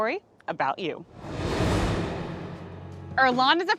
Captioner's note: screen whooshing